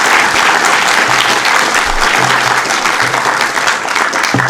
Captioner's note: applause